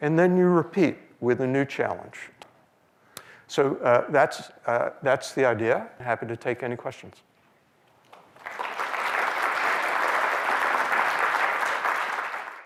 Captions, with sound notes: and then you repeat with a new challenge. So that's the idea, happy to take any questions. [APPLAUSE]